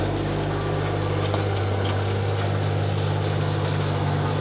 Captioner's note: auger humming